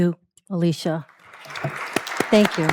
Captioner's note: applause